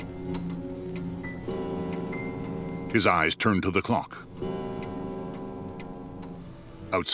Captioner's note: clock chiming